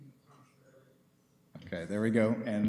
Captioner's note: background chatter